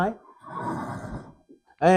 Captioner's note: in horse language